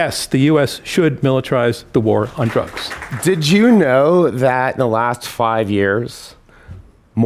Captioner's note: applause